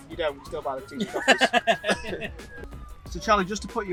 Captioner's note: laughing